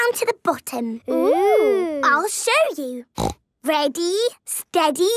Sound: snorting

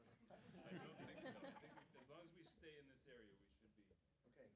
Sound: audience laughing

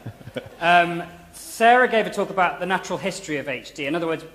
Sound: laughter

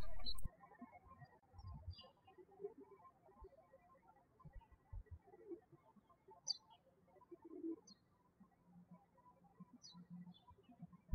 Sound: birds chirping

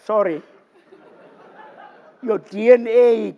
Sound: laughter

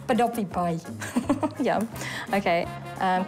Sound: chuckles

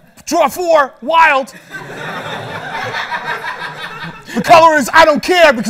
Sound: laughter

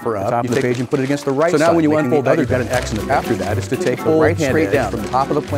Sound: quickly talking

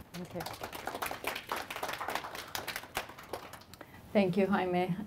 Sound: applause

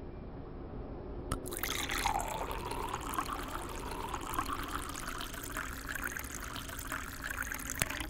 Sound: water filling

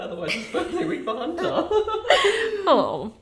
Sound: laughing; giggling

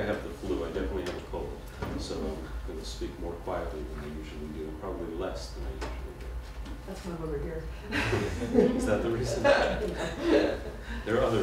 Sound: laughter

